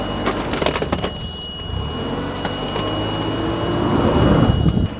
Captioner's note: protection mats crunching